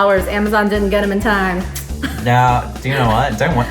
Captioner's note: tuts